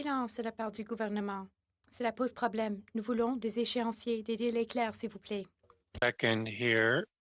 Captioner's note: speaking French